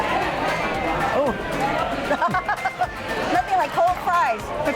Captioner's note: laughs